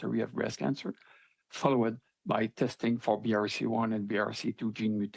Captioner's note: speaking French